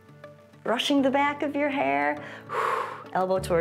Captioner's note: exhales